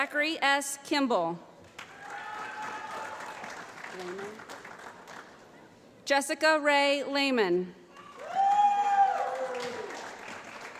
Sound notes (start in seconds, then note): 1.7 applause; 7.9 applause